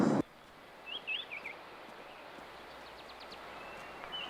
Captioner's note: birds chirping